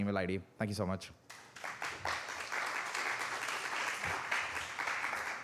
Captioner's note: applause